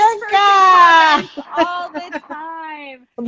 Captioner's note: laughing